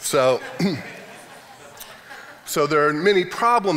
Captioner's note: audience members laughing